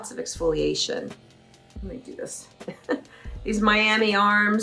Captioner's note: laughs